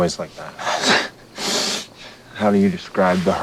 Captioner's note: laughs